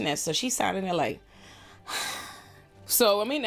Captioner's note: sighs